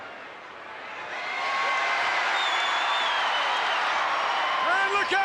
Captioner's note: crowd cheers